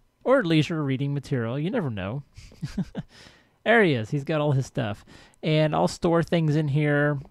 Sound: laughs

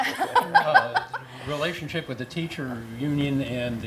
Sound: laugh

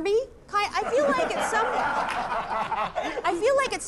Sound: laughter

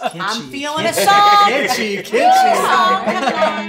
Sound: laughs

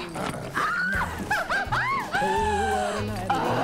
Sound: laughs

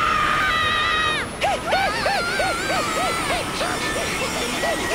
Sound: screaming; panting

